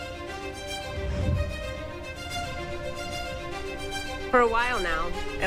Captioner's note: air whooshes